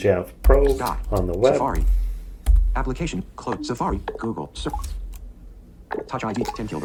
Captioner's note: computer voiceover